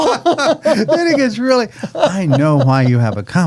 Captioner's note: laughing